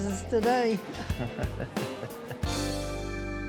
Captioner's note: chuckles